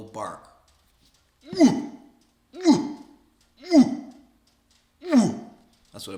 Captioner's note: imitates male moose sound